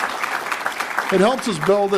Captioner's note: applause